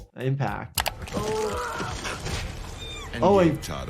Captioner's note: man screams